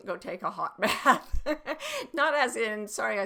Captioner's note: laughing